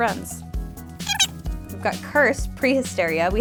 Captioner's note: squeaking